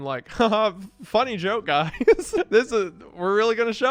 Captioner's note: laughing